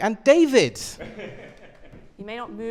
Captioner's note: laughter